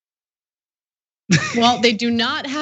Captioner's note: laugh